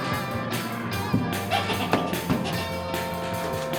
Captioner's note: foot squeaking